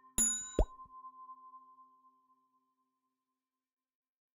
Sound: bell ringing

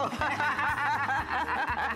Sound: laughter

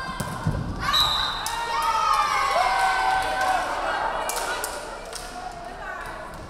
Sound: crowd cheering; referee whistling

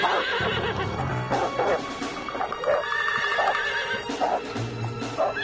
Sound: horse continues to neigh; wolf continues to bark

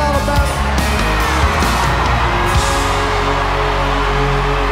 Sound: audience cheering

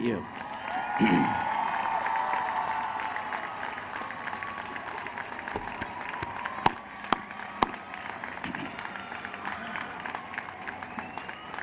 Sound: applause

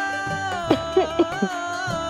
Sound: clearing throat

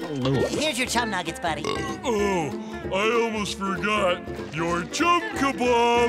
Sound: belching

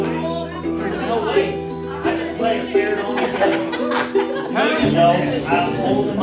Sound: group chatters

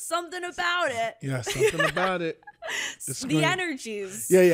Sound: laughs

